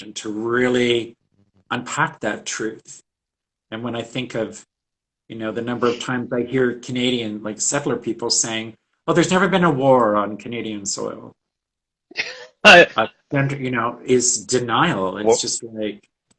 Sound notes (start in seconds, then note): 12.1 laughs